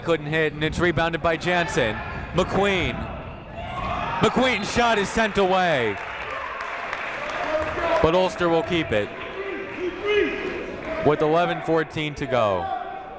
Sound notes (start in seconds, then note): 5.9 clapping